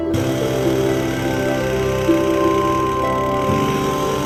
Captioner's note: machine revving